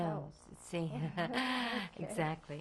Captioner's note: laughter